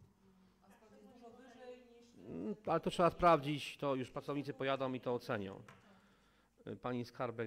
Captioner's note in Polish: Głosy z sali